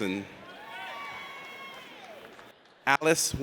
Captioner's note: audience cheers